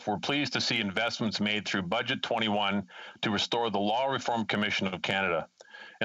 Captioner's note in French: voix de l'interprète